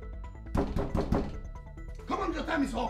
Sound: knock

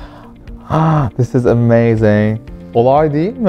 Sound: gasps

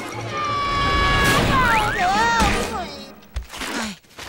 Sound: screaming

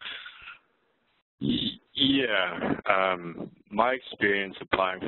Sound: voiceover

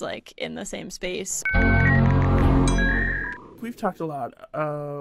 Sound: internet dialing up

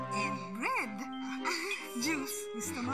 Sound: Ethel chuckles

